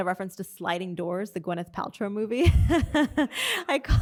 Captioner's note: laughs